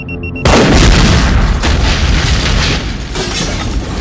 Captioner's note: explosion booms